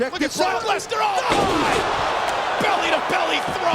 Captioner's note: crowd roaring; slamming floor